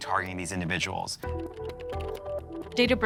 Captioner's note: keys clacking